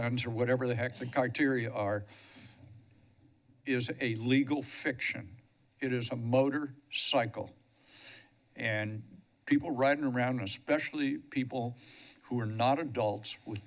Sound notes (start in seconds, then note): 2.1 pause; 7.7 breaths steadily